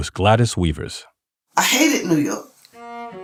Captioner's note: soundbite of archived recording